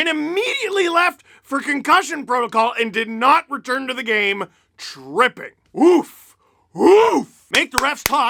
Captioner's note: lots of claps